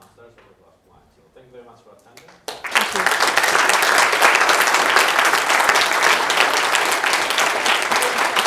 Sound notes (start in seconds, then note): 2.4 applause